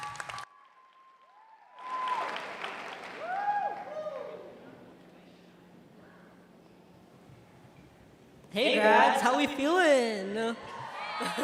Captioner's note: applause